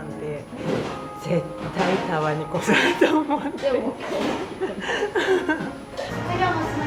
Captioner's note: laughs